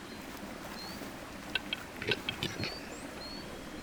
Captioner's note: birds clucking